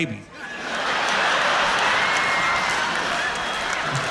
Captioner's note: laughter